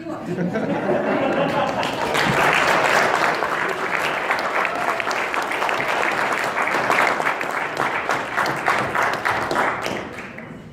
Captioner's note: audience laughs and applauds